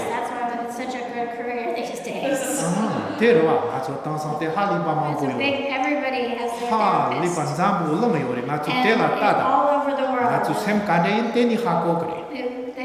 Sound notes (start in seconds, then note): 2.8 laughter; 4.3 speaking tibetan; 8.1 speaking tibetan; 11.8 speaking tibetan